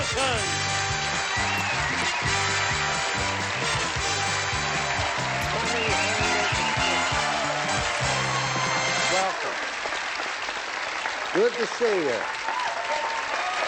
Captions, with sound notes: [cheering] - Welcome. Good to see you.